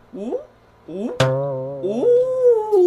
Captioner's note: comedic sound effect; laughing sound